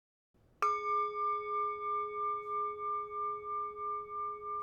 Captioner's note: doorbell